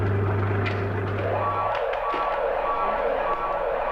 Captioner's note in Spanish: ruido interruptor; sonido de alarma